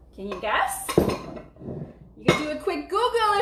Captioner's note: bowls clanging